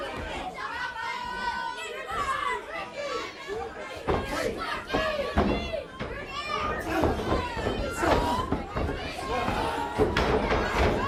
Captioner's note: crowd chatter